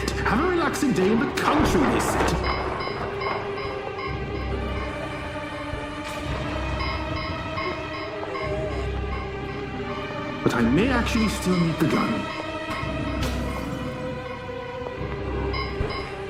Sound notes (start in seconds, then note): 3.9 glass shattering; 3.9 zombies groaning; 13.1 glass shattering